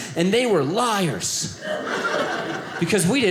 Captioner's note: audience laughing